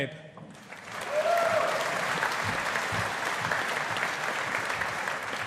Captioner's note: audience applauding